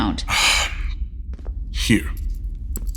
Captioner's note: jewelry sounds